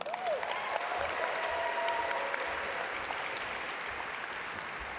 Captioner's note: audience applaud